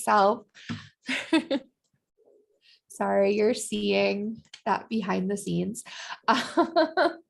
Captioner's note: laughter